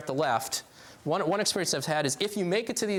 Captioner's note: none